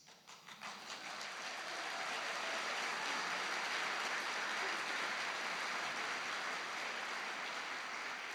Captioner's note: applause